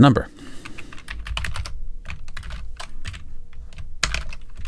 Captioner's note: keyboard clacking